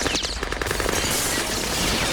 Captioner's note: gunfire and glass shattering